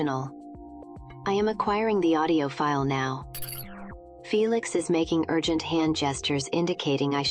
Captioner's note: processing sound